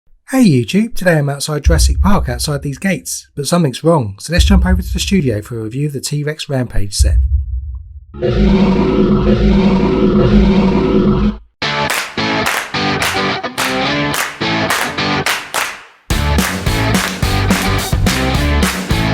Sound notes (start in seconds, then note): 12.4 dinosaur roar